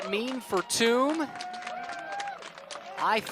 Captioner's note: cheers, applause